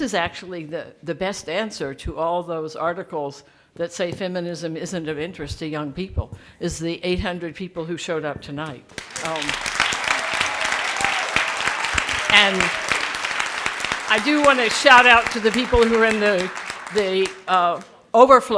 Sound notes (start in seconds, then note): 9.1 audience clapping